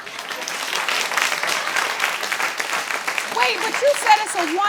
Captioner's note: audience applauds